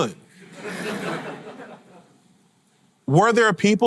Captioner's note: audience laughter